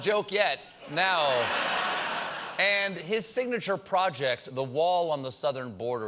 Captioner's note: laughter